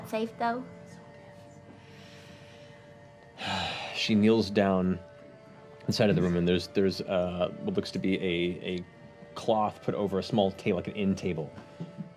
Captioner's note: sighs